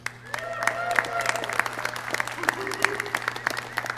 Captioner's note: clapping